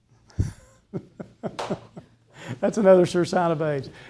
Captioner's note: laughs